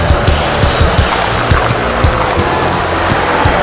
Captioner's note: sound of aggressive apple munching which is supposed to be I guess bone breaking